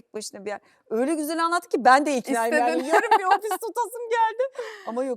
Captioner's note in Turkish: kahkaha